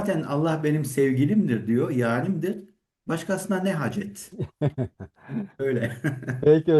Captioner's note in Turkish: kahkaha